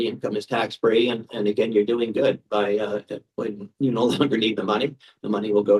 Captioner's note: chuckles